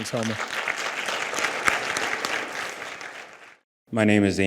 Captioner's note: audience applauds